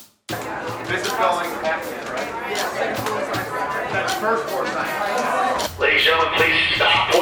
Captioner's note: light music; chattering